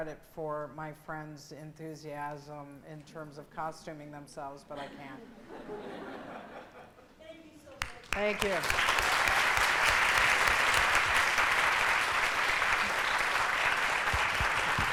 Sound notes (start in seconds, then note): 5.2 laughing; 7.7 applause